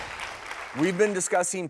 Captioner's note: audience applauding